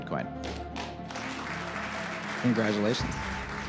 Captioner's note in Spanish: aplausos